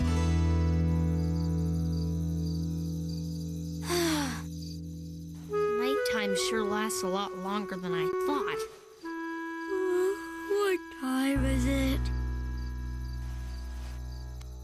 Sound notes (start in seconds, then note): 3.8 sigh; 11.0 yawn